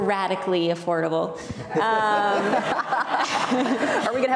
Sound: laughing

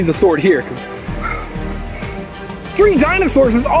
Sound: panting

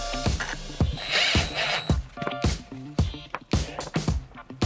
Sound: drilling

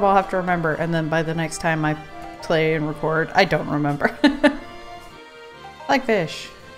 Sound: laughs

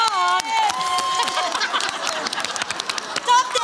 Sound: laughter

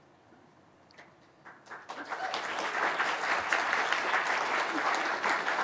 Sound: audience applauding

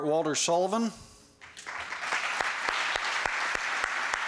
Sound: applause

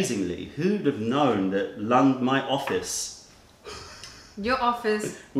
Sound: laughter

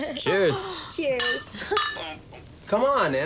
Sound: bottles clank

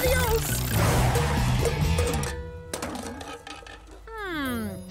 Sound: clanking

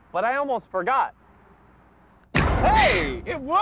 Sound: loud short bang

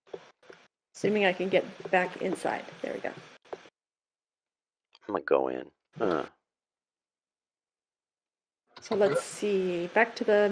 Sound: grunt

